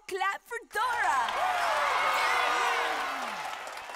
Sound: cheering

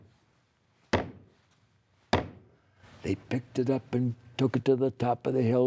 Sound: pounding sound

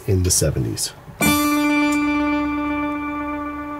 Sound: echoing

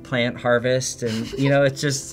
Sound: laughs

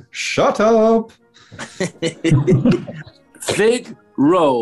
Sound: chuckling

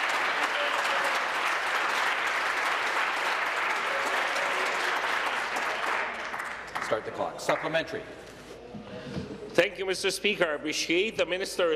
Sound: applause

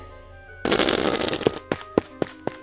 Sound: Estrafalario farts

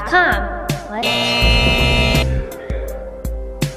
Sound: buzzer

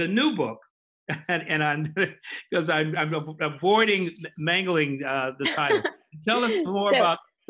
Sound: laughs

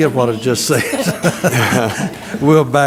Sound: laugh

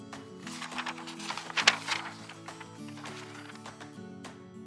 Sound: page shuffles

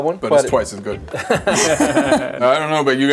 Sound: laugh

